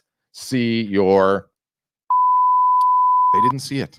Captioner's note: loud beeping